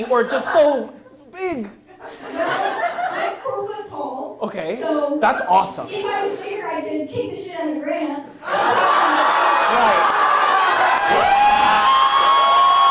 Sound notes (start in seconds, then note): 2.0 audience laughs; 8.4 audience laughs and cheers